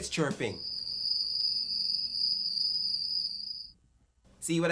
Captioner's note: cricket sounds